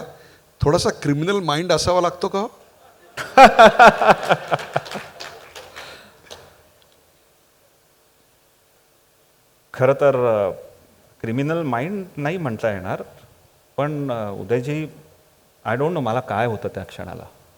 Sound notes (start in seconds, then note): 2.9 laughing